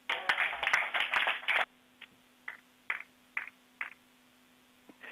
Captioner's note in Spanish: Aplausos